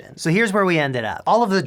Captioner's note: none